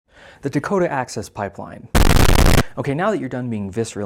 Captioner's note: loud static